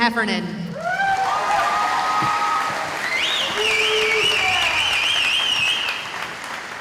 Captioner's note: cheering